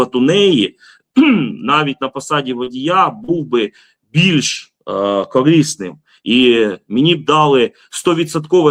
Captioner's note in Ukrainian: прочищення горла